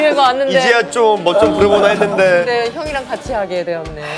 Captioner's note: tsk